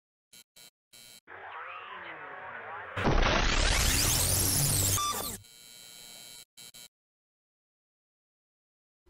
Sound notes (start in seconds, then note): 3.0 explosion sounds; 4.6 beep